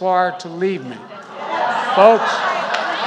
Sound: applause

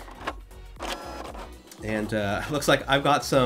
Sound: fax machine printing

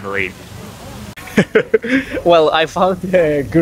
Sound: laughs

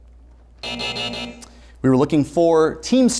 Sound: buzzer sounds

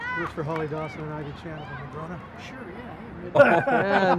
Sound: all laughing

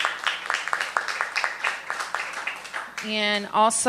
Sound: applause

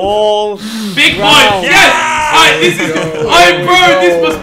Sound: group celebrating

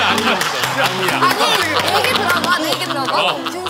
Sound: hurriedly

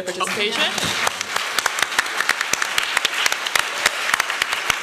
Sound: applause

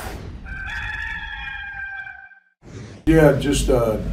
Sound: rooster crowing

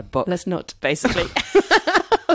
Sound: laughs

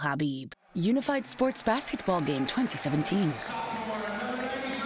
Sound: crowd cheering

